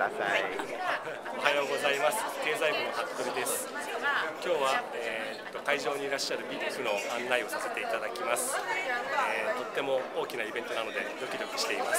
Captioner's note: speaking japanese; speaking japanese